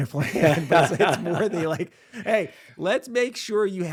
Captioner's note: both laughing